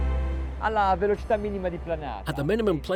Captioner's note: speaking in foreign language